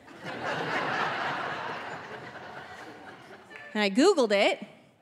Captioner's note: audience laughing